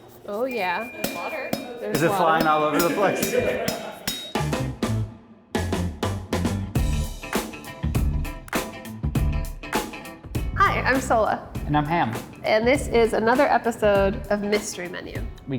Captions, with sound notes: “Oh, yeah.” “There’s water.” “Is it flying all over the place?” “(LAUGHING) Yeah.” [UPBEAT MUSIC] “Hi, I’m Sohla.” “And I’m Ham.” “And this is another episode of ‘Mystery Menu.’”